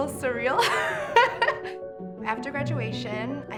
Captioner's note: laughs